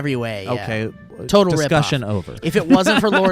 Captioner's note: laughs